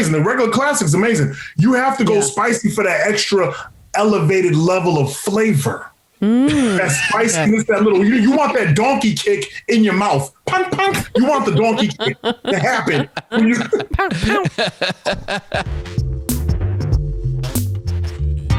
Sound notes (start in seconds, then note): 14.8 laughter; 15.5 upbeat music